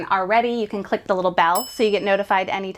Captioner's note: bell chimes